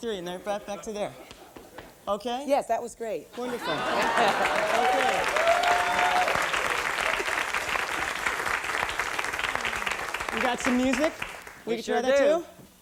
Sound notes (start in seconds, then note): 8.7 applause, whoops